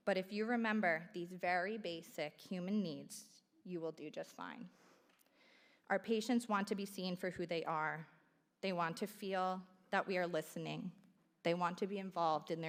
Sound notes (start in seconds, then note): none